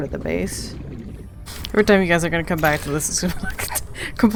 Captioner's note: laughing; laughs